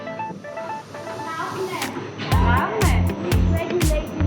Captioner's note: in Armenian